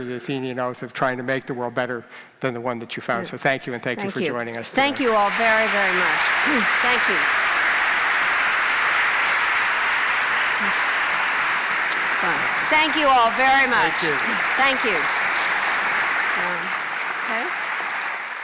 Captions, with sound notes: of the Athenian Oath of trying to make the world better than the one that you found. So thank you and thank you for joining us today. >> Thank you all very very much. [ Applause ] >> Thank you all very much. >> Thank you. >> Thank you.